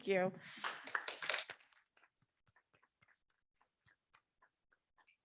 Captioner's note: audience clapping